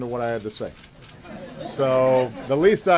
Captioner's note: laughter